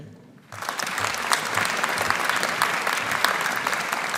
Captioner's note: audience applauding